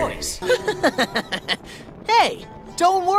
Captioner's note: laughing